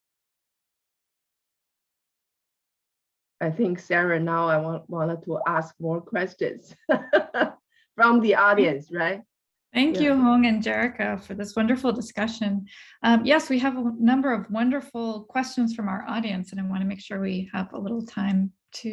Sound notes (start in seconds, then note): 6.9 laughs